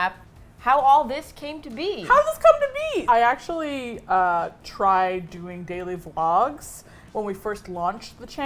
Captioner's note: high voice